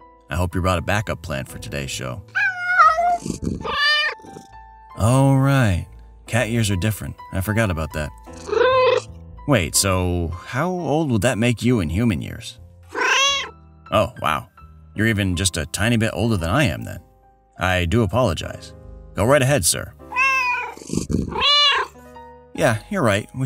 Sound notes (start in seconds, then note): 5.2 very distressed meow; 8.3 meow; 12.9 meow; 20.0 meow